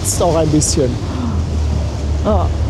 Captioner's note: gaspen